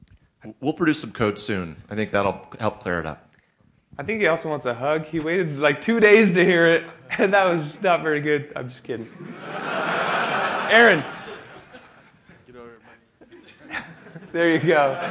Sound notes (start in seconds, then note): 9.0 laughter